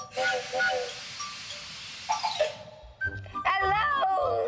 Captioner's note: train whistle blowing, steam hissing